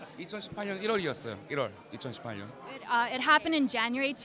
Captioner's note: speaks in a foreign language